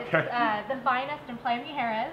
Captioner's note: laughs